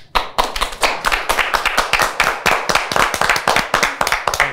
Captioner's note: clapping